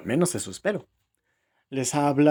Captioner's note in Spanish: Silencio